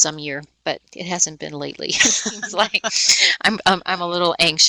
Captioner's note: laughing